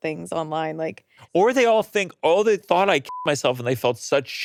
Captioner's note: beeps